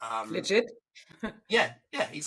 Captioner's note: chuckles